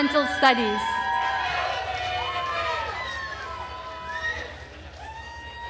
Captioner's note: attendees cheering and applauding